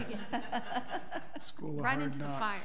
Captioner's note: people laugh